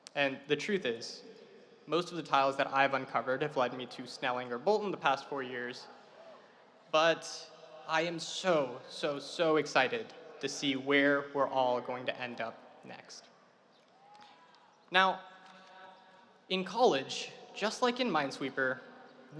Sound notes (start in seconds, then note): 14.0 audience cheering